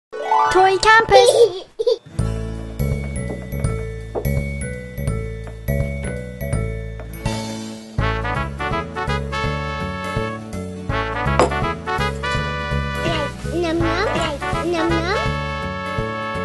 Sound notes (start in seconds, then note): 1.3 cleaning sound, background music